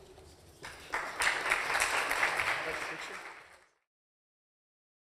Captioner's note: applause